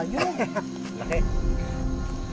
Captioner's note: laughs